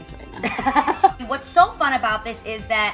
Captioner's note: Adrienne laughs